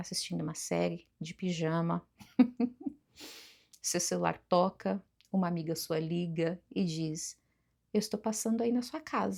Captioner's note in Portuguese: risadas